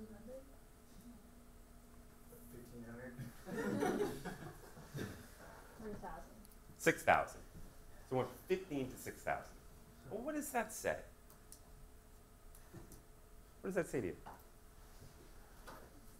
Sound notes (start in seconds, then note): 3.4 audience laughing